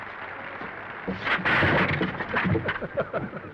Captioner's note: chair clattering; Danny laughs